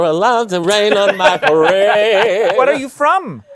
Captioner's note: laughter